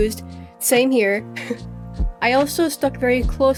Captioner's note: giggles